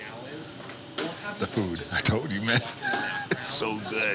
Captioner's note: laughing